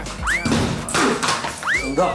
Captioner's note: bang